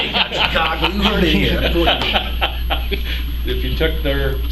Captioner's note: laughter